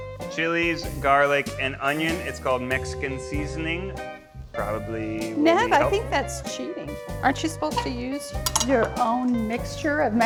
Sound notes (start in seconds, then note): none